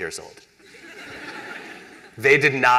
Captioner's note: laughter